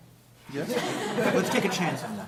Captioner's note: laughter